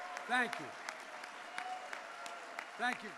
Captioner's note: applause